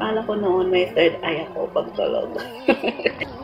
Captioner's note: laugh